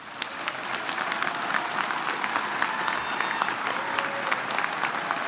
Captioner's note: audience applauding and cheering